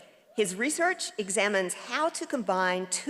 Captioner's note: none